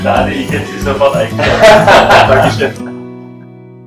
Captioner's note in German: beide lachen